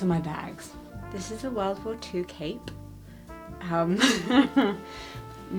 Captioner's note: laughs